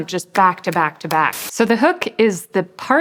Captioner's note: television static hisses